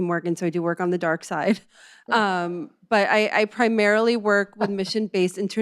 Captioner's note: laughs